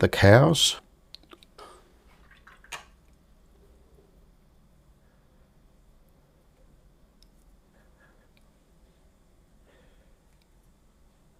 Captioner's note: silence